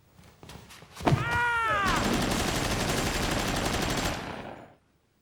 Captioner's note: Mickey screams; machine gunfire